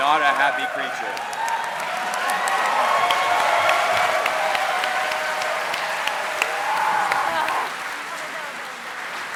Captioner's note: applause